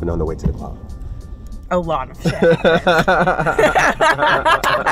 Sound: laughter

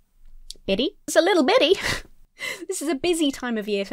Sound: laughs

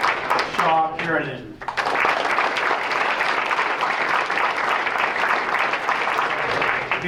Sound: applause

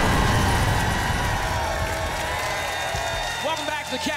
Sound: audience applause

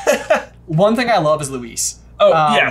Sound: laughs

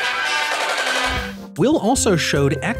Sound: gunfire

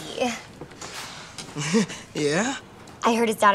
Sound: chuckles

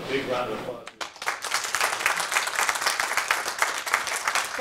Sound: applause

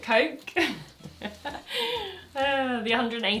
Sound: laughs

